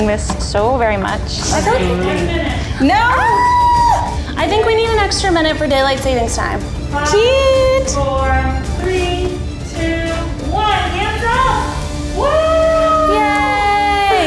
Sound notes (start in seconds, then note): 2.8 all yell; 12.0 all cheering